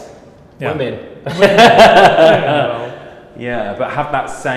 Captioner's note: laughs